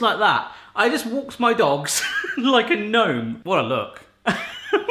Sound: laughs

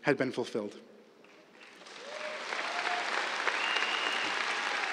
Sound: cheers, applause

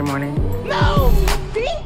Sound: shouting

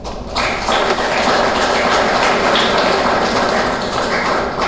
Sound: applause

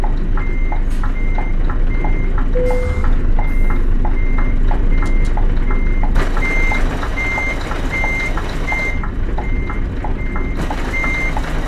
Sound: truck reverse sound signal

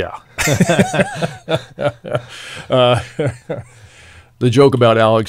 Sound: laughing

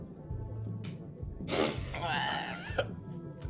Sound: laughs

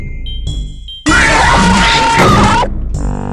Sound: Screech

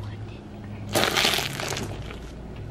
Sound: crunching egg shells

